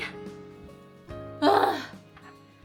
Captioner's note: groaning